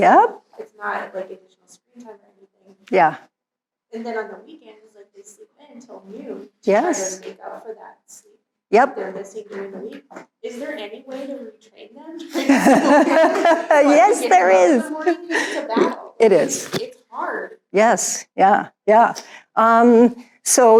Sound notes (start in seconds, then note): 12.2 laughing